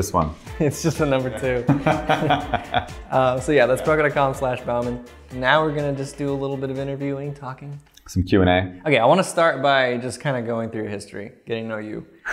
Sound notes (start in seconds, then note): 1.6 laughter